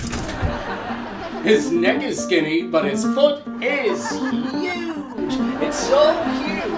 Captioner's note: canned studio laughter